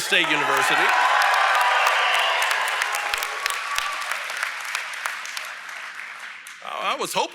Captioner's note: applause